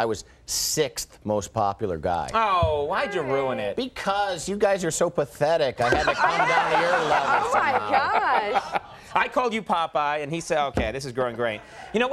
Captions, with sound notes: I was sixth, most popular guy. Oh why'd you ruin it? Because you guys are so pathetic! (audience laughing) (Conan laughing) I had to come down your level. I am! Oh my gosh! I called you Popeye and he said, okay, this is going great.